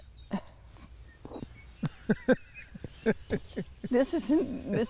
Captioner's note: laughter